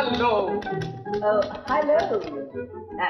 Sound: typewriter keytop clacking

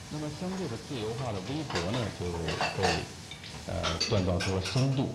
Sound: dishes clinking

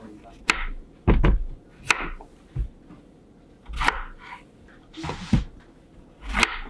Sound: cutting Zucchini

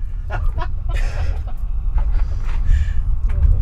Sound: laughing

